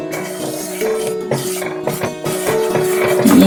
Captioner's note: stirring